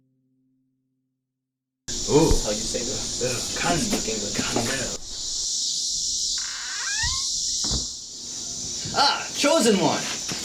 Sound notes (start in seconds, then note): 1.9 indistinct conversation; 6.3 door creaks; 6.4 door slams